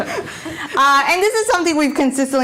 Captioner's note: laughing